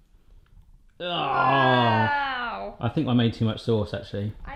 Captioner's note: groans